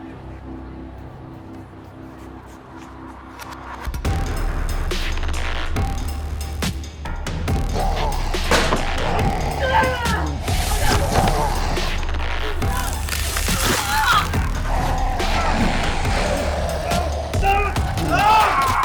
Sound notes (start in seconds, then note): 0.1 suspenseful orchestral music; 8.1 growling; 9.7 grunting; 10.8 zapping; 14.3 grunting